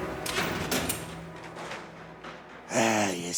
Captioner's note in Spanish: ruido de la puerta